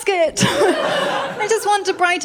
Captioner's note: laughter